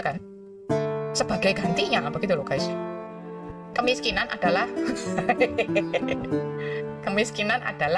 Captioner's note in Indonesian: tertawa